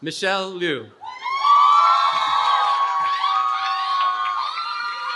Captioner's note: cheering